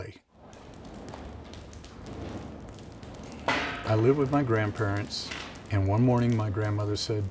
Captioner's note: crackling fire